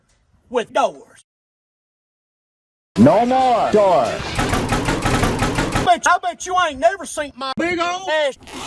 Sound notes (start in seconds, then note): 4.3 assaulting the door